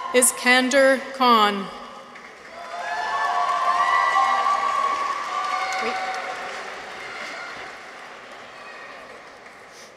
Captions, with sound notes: Iskandar Khan. -(people cheer) -(audience applauds)